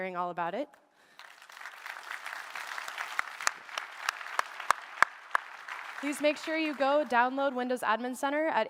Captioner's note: applause